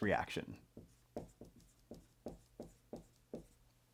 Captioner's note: pen scratching